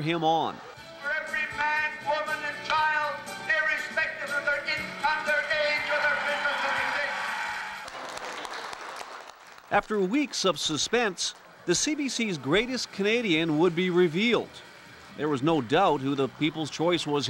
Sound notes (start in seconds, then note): 9.1 applause